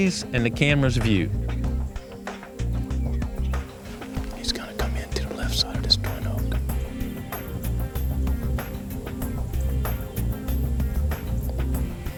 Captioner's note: whispering